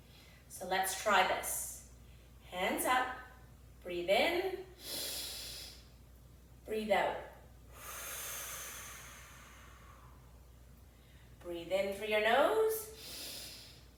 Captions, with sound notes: So, let's try this. Hands up, breathe in. (inhales deeply) Breathe out. (exhales deeply) Breathe in through your nose.